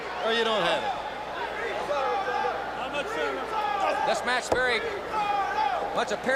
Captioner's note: crowd chatter